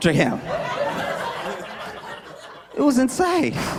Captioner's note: laughter